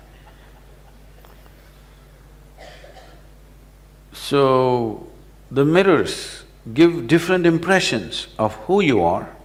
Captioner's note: laughter